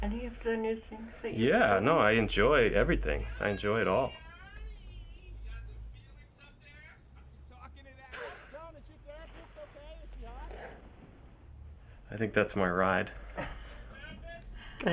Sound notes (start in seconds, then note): 2.9 singsong voice; 8.1 chuckles; 13.1 chuckles